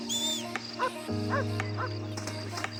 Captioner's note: music or game and barking dogs; music or game and footsteps on the leaves